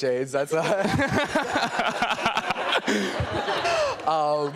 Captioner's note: laughter; laughing